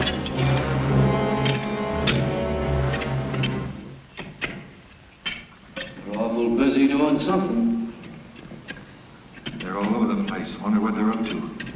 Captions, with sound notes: (digging sounds) - They’re awful busy doing something. - They’re all over the place. I wonder what they’re up to.